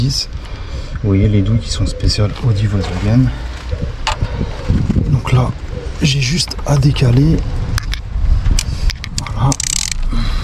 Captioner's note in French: grognement